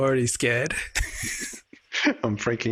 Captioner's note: laughing